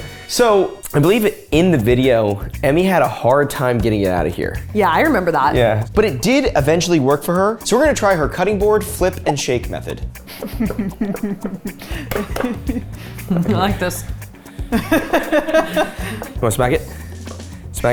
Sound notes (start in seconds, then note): 10.3 chuckling; 14.5 laughing